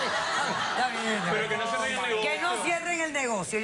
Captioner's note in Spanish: Risas